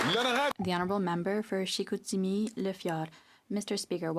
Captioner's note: some Applause